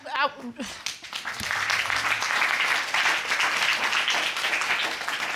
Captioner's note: applause